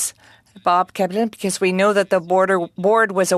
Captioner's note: speaking french